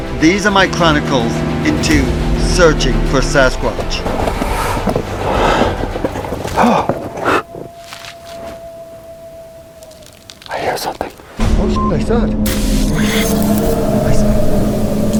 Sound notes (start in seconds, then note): 5.2 person breathing